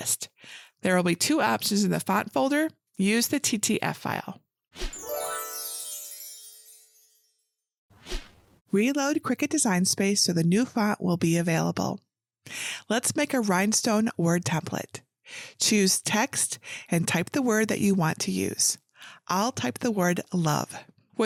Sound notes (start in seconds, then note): 4.8 screen whooshing; 4.8 magic sparkling; 8.0 screen whooshing